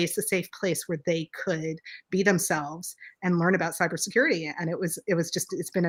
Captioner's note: none